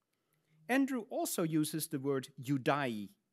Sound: speaks in Latin

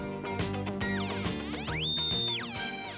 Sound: game whistling

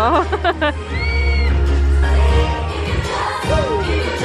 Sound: laughing

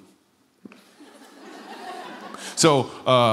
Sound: laughter

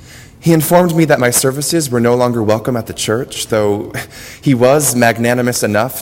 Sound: laugh

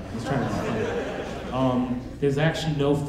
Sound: audience laughing

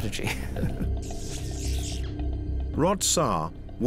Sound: chuckles; electrical crackling

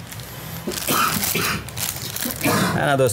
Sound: coughing

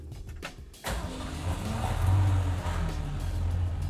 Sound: engine starting

